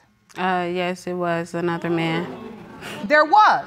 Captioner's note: audience exclaims